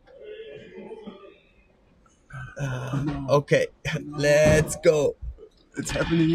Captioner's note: machine beeping